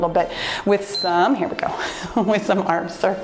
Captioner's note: timer beeps